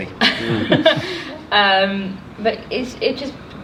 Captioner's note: laughs